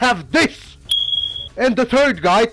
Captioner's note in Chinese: 美國煙霧警報器更換電池提示音